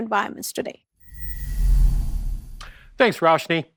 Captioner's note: air whooshes